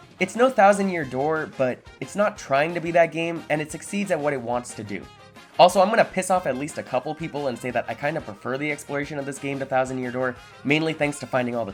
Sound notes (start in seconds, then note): none